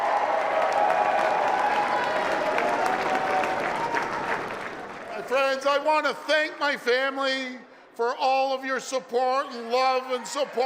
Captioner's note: applause